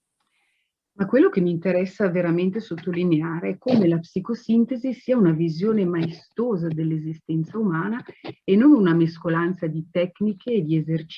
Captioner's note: speaks Italian